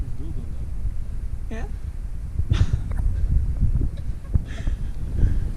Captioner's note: laughs